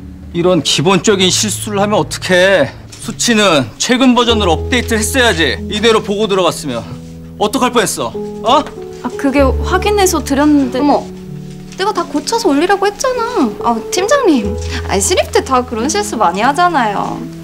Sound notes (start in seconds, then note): none